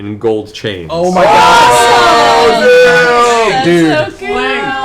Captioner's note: cheering